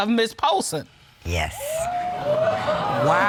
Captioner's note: audience exclaim